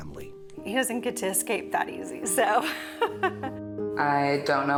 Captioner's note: laughs